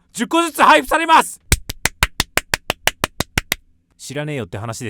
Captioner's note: applause